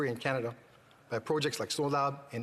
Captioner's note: speaking FRENCH